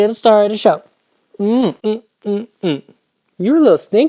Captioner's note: smooches Albert